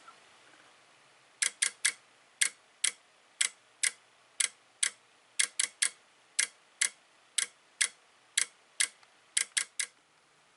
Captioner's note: module clicks this pattern